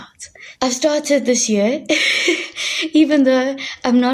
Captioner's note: chuckling